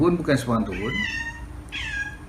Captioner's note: cat meow